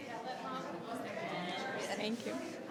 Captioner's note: people chattering